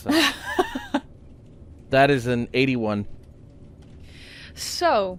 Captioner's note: laughter